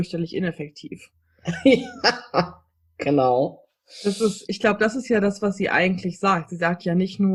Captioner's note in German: lacht